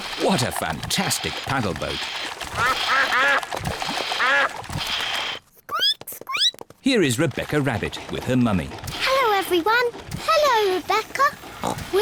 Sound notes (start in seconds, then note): 2.6 ducks quack; 5.4 squeaks